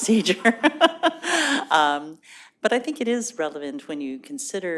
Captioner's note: laughter